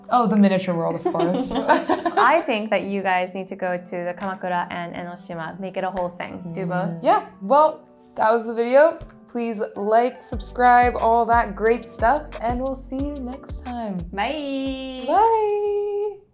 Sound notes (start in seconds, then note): 1.1 chuckle